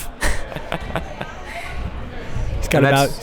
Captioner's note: laughs